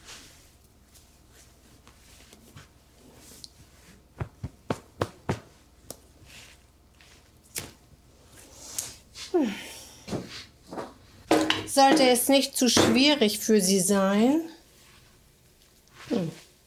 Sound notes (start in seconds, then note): 9.3 Fredriech sighing; 11.7 Fredriech speaking German